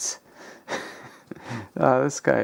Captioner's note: chortles